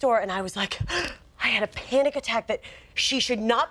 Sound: Molly gasping

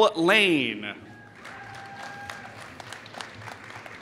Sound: applause

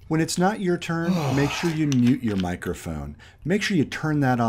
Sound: sigh

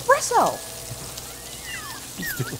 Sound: laughter

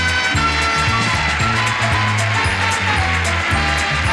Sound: audience cheering; upbeat music continues

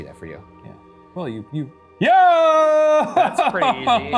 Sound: yells

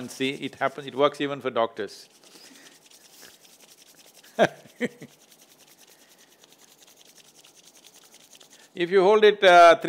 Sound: laughs

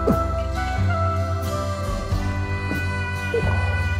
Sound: bottles clinking

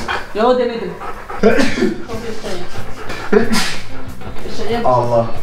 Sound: sneezing

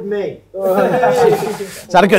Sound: a few ironic cheers

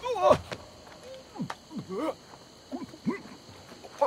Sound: choking sounds

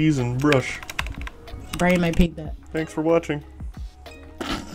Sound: snickers

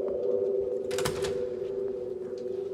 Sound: door closing

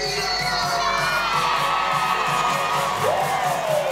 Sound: audience cheering

